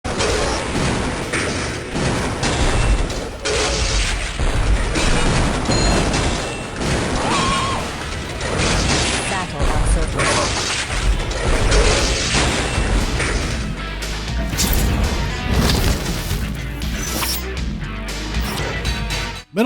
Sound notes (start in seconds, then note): 0.0 Combots fighting; 7.1 Marv scream; 7.9 Combots fighting; 10.4 Sounds of Combots fighting; 13.4 title music